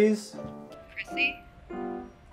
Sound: female voice

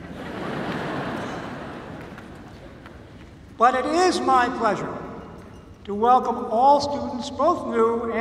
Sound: laughter

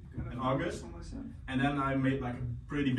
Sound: murmuring

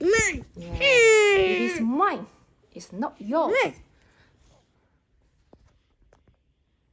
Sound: making strange voices

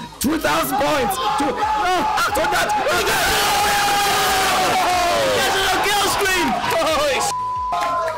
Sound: cheering

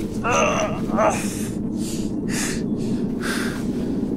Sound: Papi grunts

